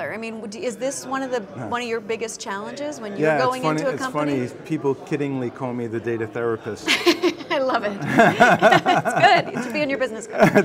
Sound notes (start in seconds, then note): 6.8 laughs